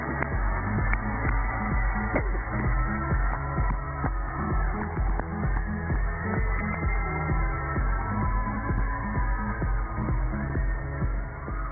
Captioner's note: cheers and applause